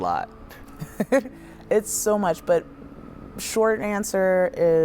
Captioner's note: laughs